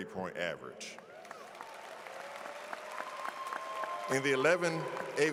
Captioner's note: audience claps